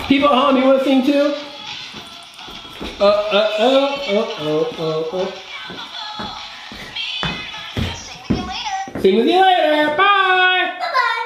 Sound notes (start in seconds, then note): 8.2 microphone voice